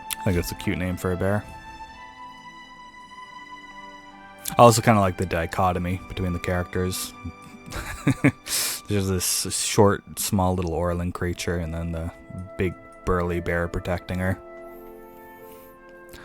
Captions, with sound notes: I think that's a cute name for a bear. I also kinda like the dichotomy between the characters (laughter). There's this short, small, little Orlan creature and the this big, burly bear protecting her.